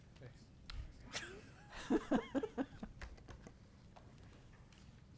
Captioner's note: board members laughing